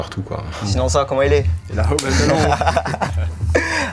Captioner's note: laughs